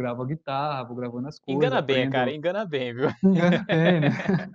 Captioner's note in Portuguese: risos